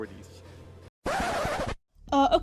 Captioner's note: record scratch